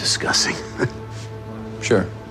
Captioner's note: chuckling